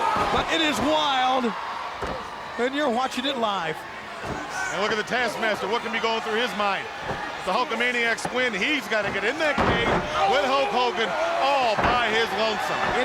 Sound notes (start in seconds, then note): 9.0 body slamming